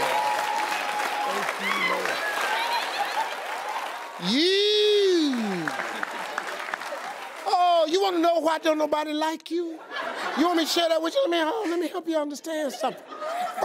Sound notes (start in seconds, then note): 0.9 audience applauding; 2.6 audience laughing